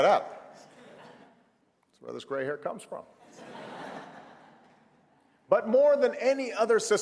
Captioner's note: laughter; laughter